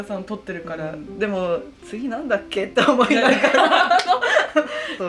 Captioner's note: laughs